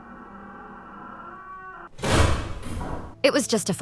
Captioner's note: door slams shut